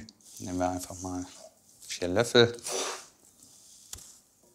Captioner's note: none